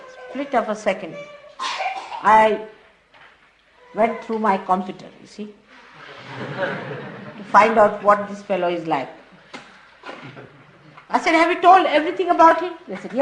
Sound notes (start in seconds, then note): 6.0 laughter